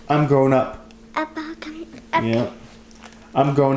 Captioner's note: babbles